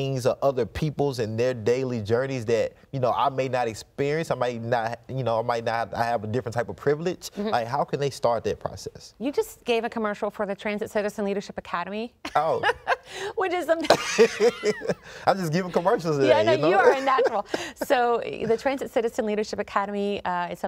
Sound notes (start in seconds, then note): 12.2 laughs; 13.8 both laughing